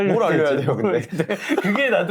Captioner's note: laughs